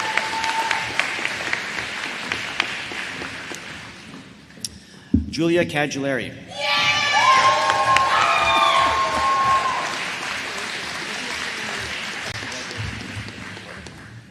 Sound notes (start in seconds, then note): 2.6 applause